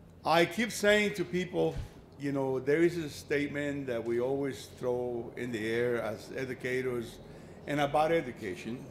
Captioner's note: none